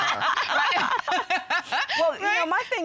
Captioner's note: laughing